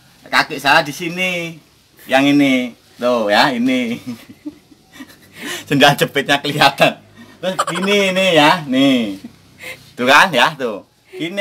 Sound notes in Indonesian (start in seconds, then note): 7.5 tertawa